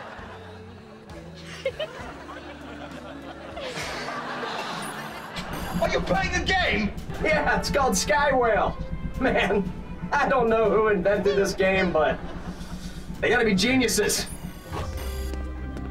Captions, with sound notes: [giggling] Are you playing a game? Yeah, it's called Sky Whale. Man, I don't know who invented this game, but... They gotta be geniuses.